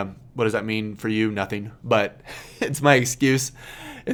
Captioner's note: laughs